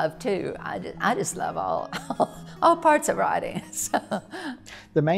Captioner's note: chuckles